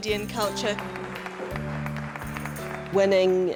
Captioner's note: audience applauds